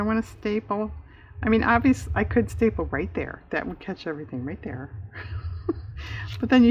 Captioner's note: laughs